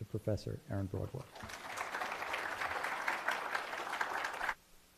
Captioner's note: applause